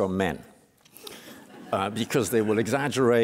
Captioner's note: laughter